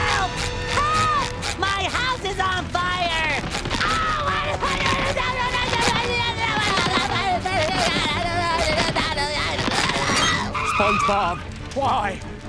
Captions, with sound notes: Help! My house is on fire! [screaming] SpongeBob, why?